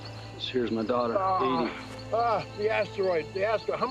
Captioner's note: moans